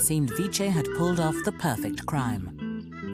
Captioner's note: voiceover